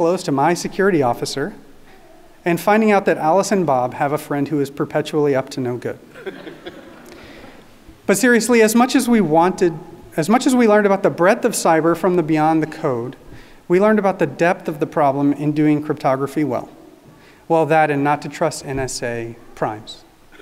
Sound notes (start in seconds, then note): 6.2 audience laughing